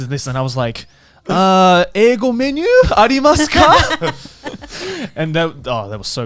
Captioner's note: speaks in foreign language